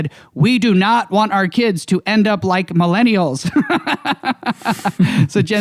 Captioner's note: laughs